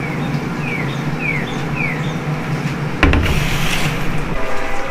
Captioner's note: birds chirping